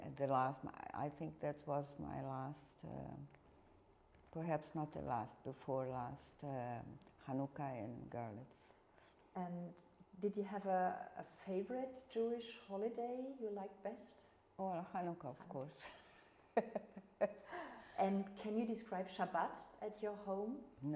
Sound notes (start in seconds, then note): 16.6 laughing